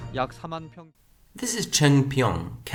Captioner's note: news report in Korean